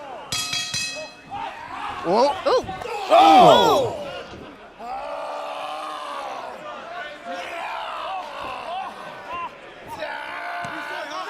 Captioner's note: bell ringing